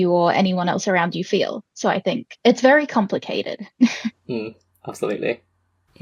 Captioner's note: laughs